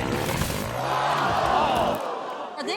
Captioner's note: ATV revving; audience oohs